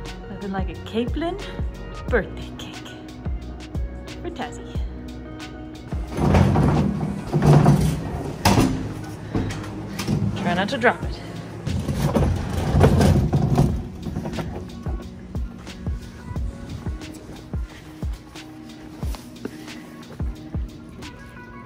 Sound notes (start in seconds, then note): 5.9 noise of cart trundling along; 11.4 noise of cart trundling along; 14.3 background music